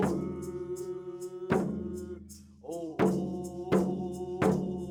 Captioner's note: chanting continues